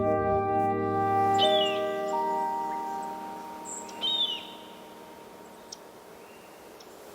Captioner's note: bird call